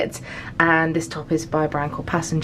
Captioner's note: none